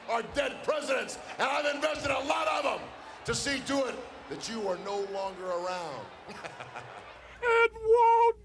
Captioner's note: laugh